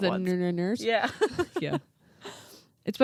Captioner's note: laughs